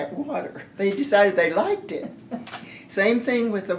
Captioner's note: laughter